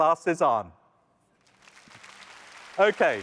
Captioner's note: applause